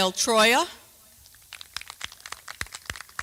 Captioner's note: applause